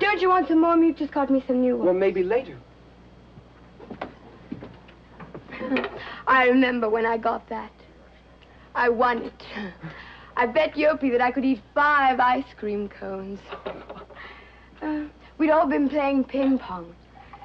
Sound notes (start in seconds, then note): 5.5 chuckles; 9.5 giggles